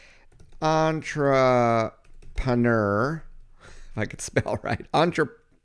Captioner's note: laughs